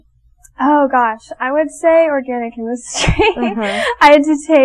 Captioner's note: laughing